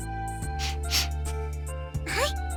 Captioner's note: sniff